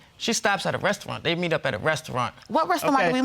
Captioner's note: none